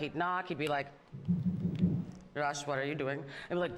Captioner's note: knocks on microphone